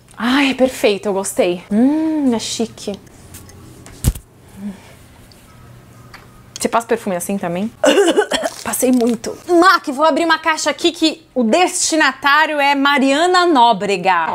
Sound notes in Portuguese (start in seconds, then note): 7.8 tosse